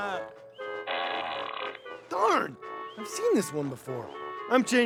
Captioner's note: shouts